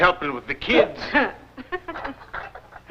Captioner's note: laughs